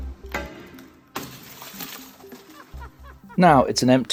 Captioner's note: glass shattering